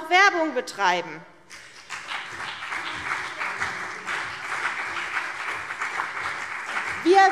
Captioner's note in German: Beifall CDU und BÜNDNIS 90/DIE GRÜNEN